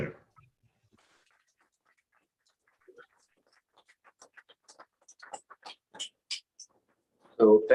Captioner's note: applause